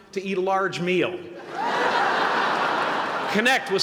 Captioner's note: laughter